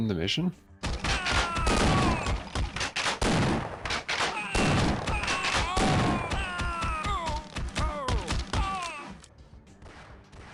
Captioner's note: sounds of rosenberg in excrutiating pain